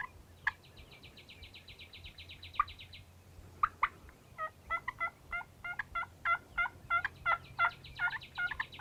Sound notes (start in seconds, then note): 2.7 imitating turkey gobbling